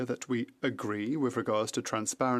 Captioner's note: speaking French